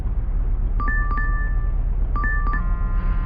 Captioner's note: phone chimes; phone buzzes